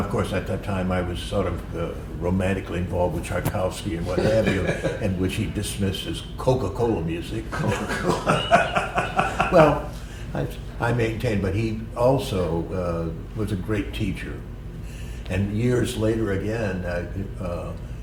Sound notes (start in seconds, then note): 4.0 laughter; 7.5 laughter